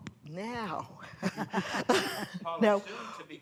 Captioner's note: laughter